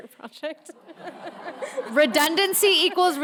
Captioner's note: audience laughs